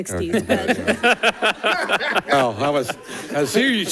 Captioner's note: all laughing